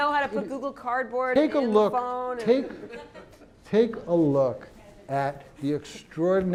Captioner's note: laugh